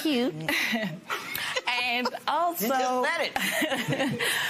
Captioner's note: laughs